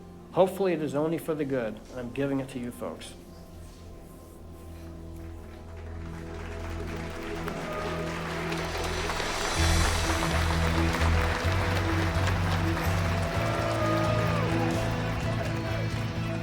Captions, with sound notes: Hopefully, it is only for the good, and I'm giving it to you folks. [applause] [inspirational music]